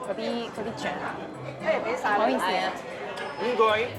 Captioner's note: speaking Chinese dialect